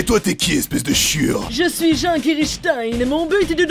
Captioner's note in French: Jean *voix snob